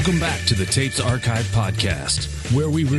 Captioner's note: none